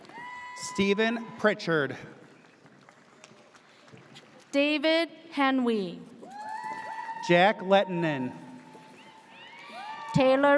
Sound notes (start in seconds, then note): 0.0 audience cheers; 6.3 audience cheers